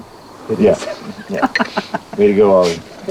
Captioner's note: laughs